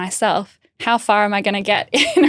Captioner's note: laughing